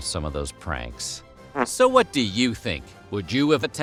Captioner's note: fart